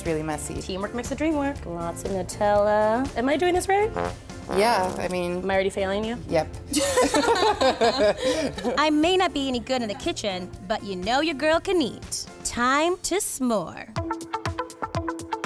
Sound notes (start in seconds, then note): 6.8 laughing